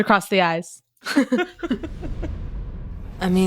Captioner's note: both laughing